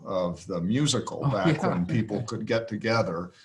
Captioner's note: laughs